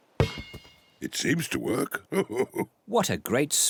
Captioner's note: laughs